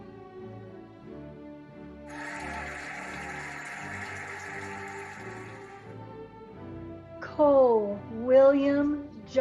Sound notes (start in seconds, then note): 2.1 cheering and applauding